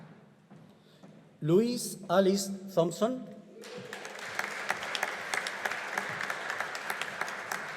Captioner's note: audience applauding